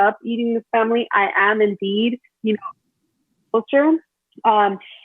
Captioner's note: audio distorts